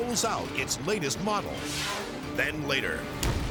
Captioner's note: graphics whooshing